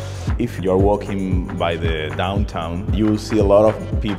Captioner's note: man's voice, in Spanish; man's voice